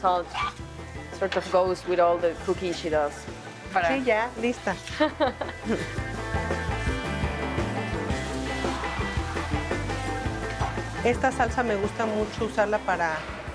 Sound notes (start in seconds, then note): 3.7 speaking Spanish; 4.9 laughs; 10.8 speaking Spanish